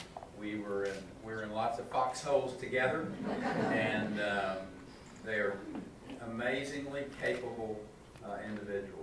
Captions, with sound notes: We were in lots of foxholes together (audience laughing) and they are amazingly capable individuals